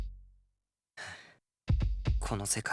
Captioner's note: sigh